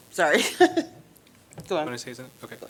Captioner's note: laughter